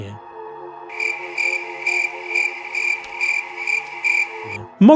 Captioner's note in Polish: świerszcze